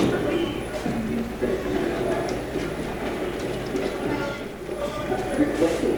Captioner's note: radio channel changing